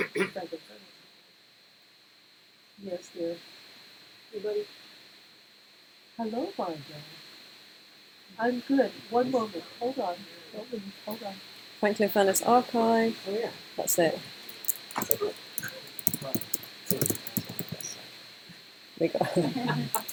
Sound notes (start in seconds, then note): 19.2 laughter